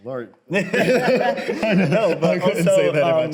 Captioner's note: both laugh